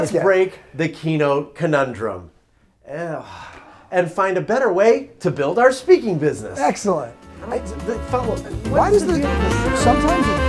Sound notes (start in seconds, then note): 3.0 sighs exasperatedly; 6.6 Latin jazz music